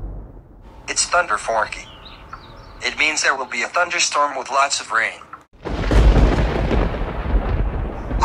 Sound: thunder collapses

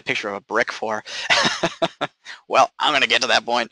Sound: laughing

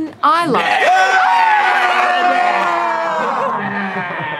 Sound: all cheering

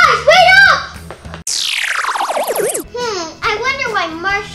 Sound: space noises

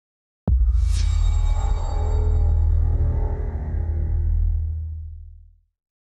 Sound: transition sound

